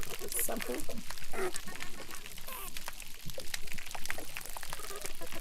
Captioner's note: crustaceans crackling